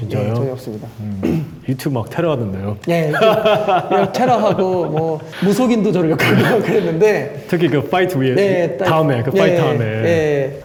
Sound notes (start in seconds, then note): 3.1 laugh